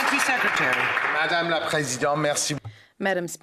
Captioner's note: some Applause